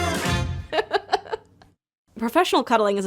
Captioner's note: laughing